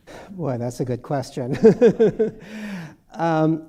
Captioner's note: laughs